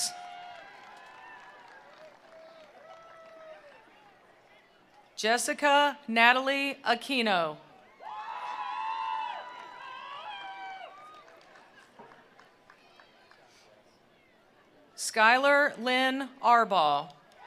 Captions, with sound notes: (attendees applauding) (attendees cheering) Jessica Natalie Aquino. (attendees applauding) (attendees cheering) Skylar Lynn Arbaugh.